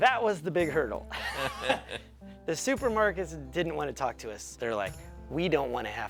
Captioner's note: laugh